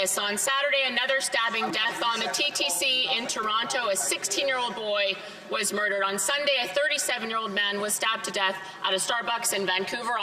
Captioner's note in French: voix de l'interprète